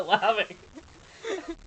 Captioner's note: laughs